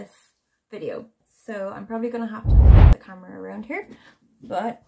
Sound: whoosh sound

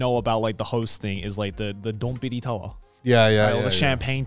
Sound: speaking foreign language

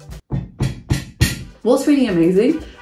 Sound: table thudding

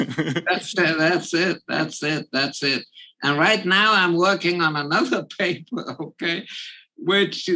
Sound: laugh

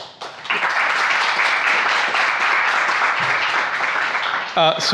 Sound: audience applauds

